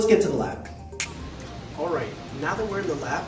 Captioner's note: snaps fingers